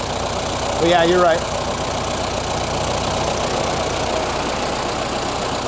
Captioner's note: engine idles